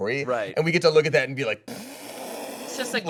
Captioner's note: scoffs